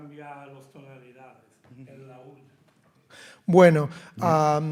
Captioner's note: speaking in Spanish